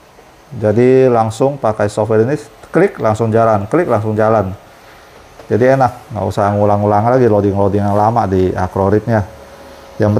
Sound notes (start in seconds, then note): 0.0 printer machine noise